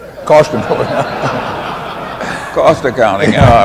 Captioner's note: laughter